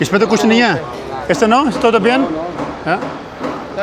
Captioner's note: speaking Spanish